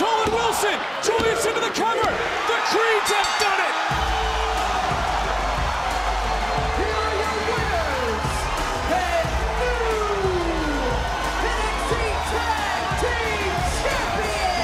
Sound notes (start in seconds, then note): 5.1 bell rings